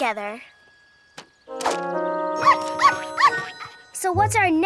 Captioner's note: playful music; dog barks